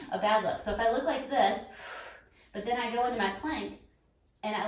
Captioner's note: exhales